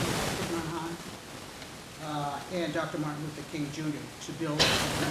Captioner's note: static hissing